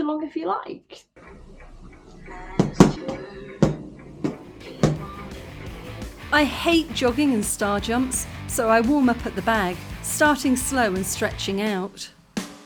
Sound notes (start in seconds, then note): 2.4 boxing gloves smacking together; 5.2 punk music